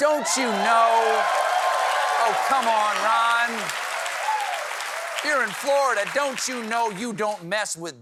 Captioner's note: cheers and applause